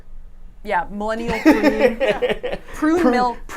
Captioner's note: laughs